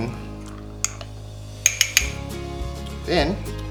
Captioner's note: spoon tapping against the mug